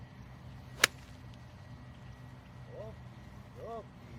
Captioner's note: golf ball thwacking